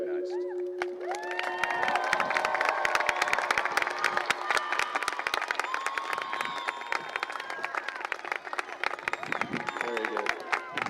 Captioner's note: applause and cheering